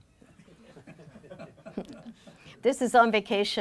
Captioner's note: laughing